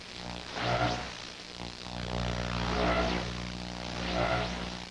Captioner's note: static buzzing continues